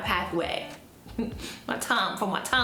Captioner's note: chuckles